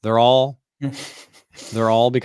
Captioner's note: laughs